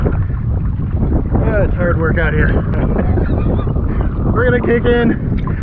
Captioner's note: laughs